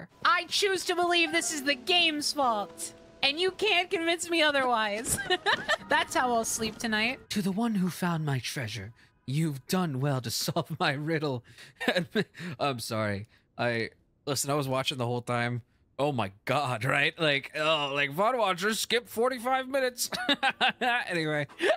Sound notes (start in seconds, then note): 5.0 laughter; 11.8 As Stone, Laughing